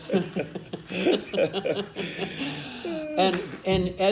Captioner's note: laughing